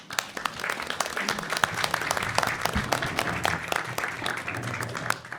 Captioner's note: attendees and trustees applauding